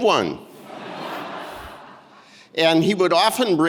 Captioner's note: audience laughing